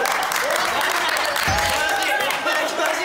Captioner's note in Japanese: 拍手喝采